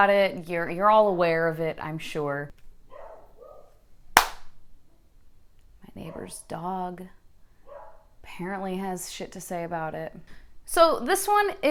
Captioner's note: dog barking